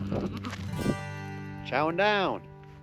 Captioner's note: goat baaing